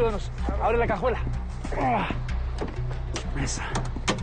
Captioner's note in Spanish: Quejidos